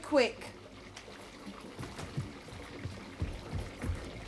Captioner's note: water trickling